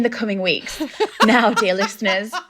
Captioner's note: laughing